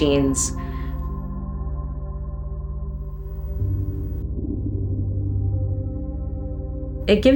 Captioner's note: drone